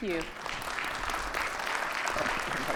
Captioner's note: audience applauds